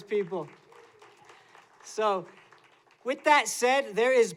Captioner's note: applause